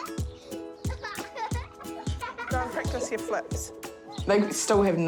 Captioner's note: giggles